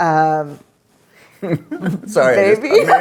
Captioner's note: laughs